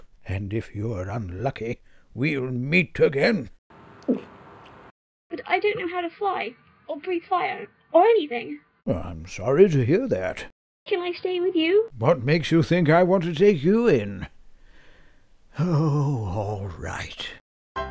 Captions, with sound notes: And if you're unlucky, we'll meet again. *gulp* But I don't know how to fly. Or breathe fire. Or anything. I'm sorry to hear that. Can I stay with you? What makes you think I want to take you in? Oh all right.